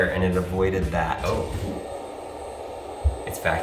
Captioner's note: vacuum whirring